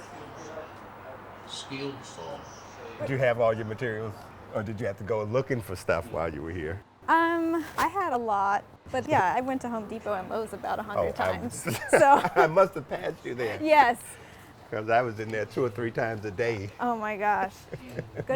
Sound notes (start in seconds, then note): 11.6 both laugh